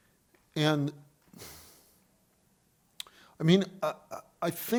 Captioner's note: sighs